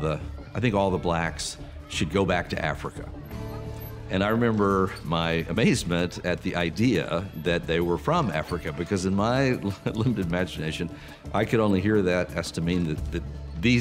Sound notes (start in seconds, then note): 9.5 chuckling